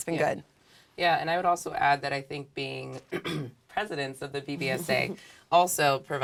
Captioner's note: cough